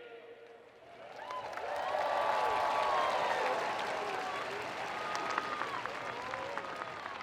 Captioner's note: audience and student cheering and screaming